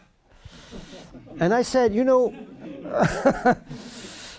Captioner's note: audience laughter